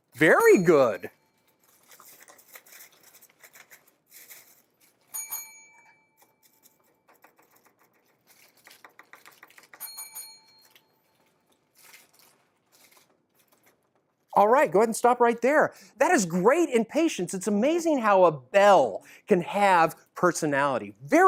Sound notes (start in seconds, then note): 2.5 bell, crinkling, tapping, multiple bell rings